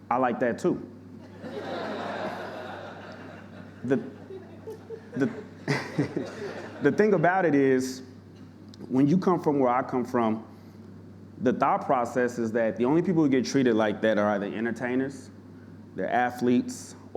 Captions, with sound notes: I liked that too. [audience laughing] The... The thing about it is, when you come from where I come from, the thought process is that the only people who get treated like that are either entertainers, they're athletes,